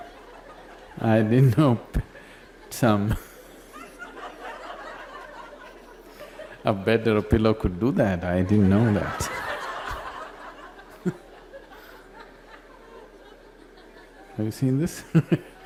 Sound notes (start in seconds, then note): 0.0 laughs; 3.0 more laughter